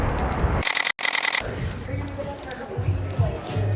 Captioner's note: camera shutter clicking